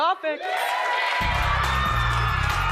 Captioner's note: audience applauds; upbeat music